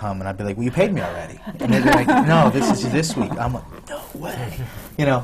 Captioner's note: laughter